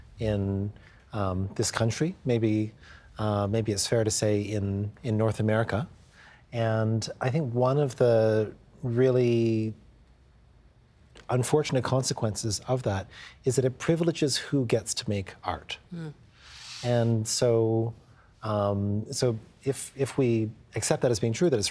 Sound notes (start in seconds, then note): none